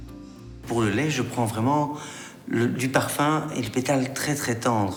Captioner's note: speaking in foreign language